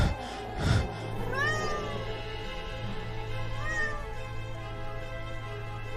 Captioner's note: cat Miaauw